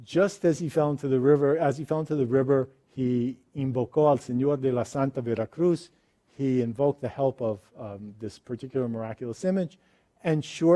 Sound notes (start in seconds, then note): 3.7 speaks foreign language